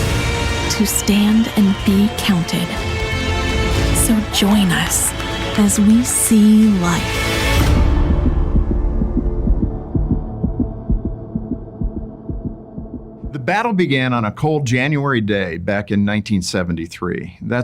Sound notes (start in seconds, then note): 7.5 heart beating; 7.6 gentle music